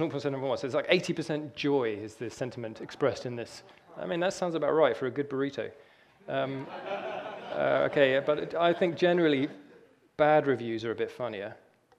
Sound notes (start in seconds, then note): 6.4 audience laughter